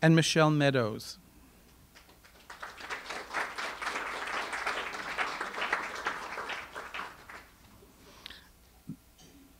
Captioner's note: audience applause